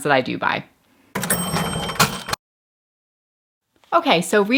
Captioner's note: cash register clinking